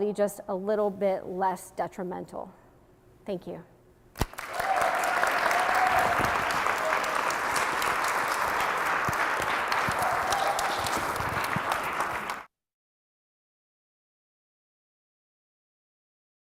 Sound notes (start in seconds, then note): 4.2 audience applauds